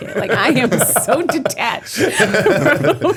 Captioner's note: laughter